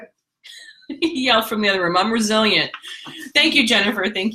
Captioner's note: laughs